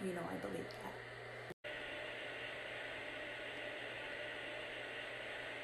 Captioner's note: white noise plays